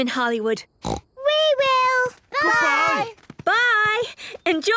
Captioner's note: snort